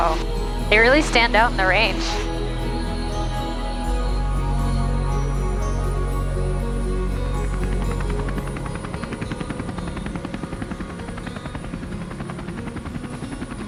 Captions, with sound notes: - Wow, they really stand out in the range. (helicopter blades whirring)